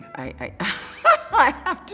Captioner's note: laughing